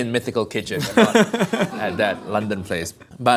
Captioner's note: laughing